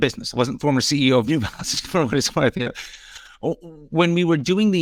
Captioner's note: chuckles